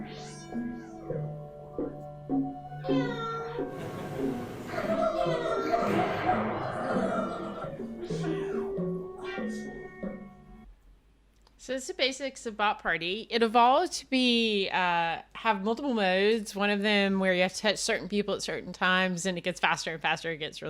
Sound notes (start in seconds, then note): 2.9 bot meowing; 4.6 bot laughing